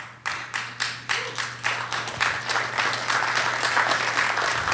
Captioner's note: audience clapping